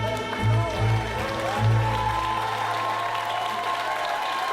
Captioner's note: crowd cheering